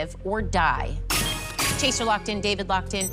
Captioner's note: chime, chime